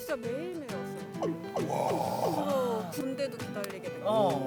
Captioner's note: inner sigh